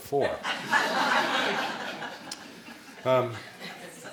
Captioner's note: laughing